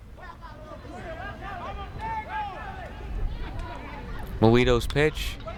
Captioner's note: players yelling in foreign language